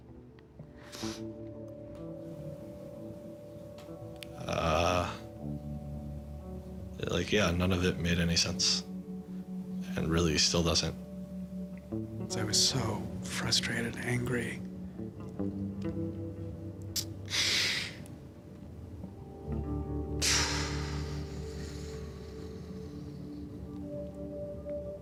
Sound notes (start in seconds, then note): 0.8 sniffles; 17.3 inhales shakily; 20.2 exhales deeply